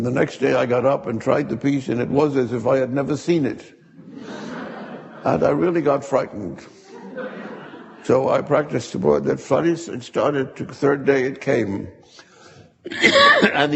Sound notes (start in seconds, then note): 3.9 audience laughing